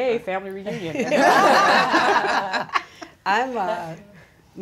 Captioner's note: all laughing